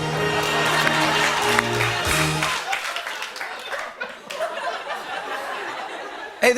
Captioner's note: laughter